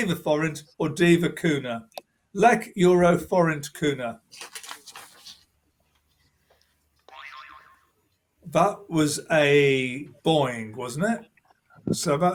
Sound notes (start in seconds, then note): 7.0 boing